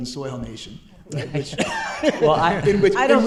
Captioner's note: chuckles